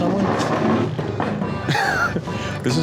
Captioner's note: chair scrapes; male customer laughs